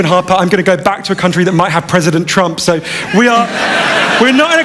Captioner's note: laughter